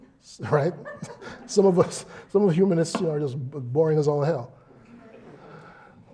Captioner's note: laugh